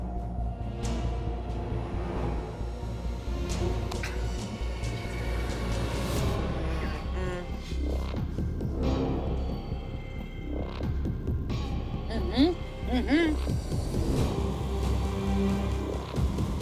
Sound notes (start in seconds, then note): 0.1 dramatic music continues; 7.9 dramatic music continues; 7.9 people humming